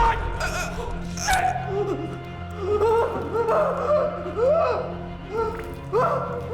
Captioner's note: crying